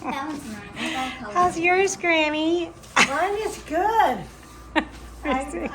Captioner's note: chuckles; laughs